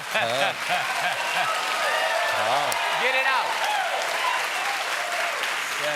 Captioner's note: cheers and applause